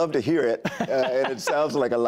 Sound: laughter

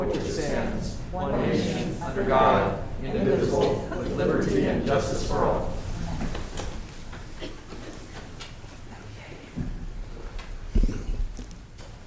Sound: reciting the pledge of allegiance

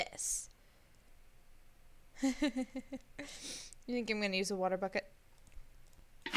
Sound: laughs

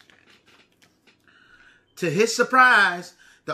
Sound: paper flipping

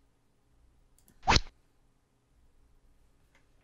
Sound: rod sound

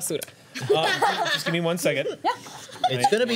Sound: laughter

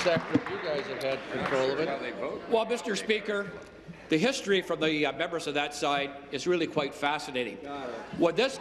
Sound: applause

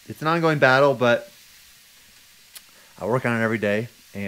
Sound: pan sizzling

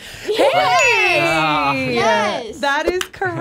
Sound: bell dings; claps

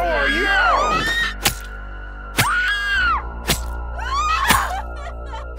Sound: stabbing and screaming

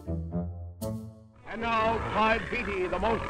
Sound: mysterious music; growling

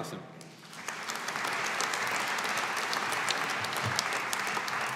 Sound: audience applauding

